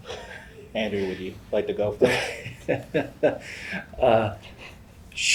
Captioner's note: laugh